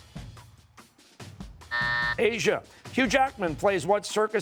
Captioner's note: buzzer